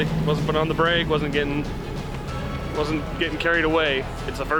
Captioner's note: car engine revving